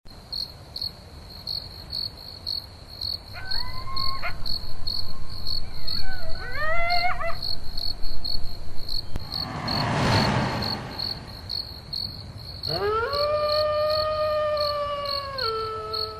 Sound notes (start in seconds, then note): 0.2 crickets chirping; 3.5 howling; 9.1 whooshing; 12.7 howling